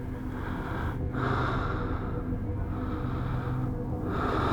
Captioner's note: man breathing heavily